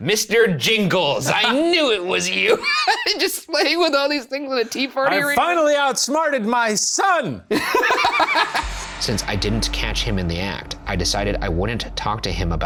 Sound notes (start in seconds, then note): 7.5 laughs